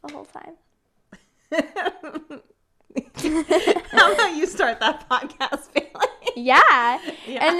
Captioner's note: laughs